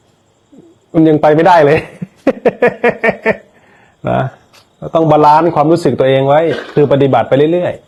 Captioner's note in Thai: เสียงหัวเราะ